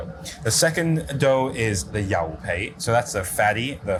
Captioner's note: speaks in foreign language